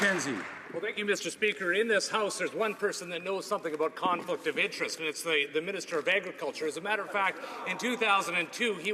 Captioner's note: some Applause